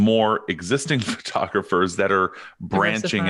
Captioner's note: chuckles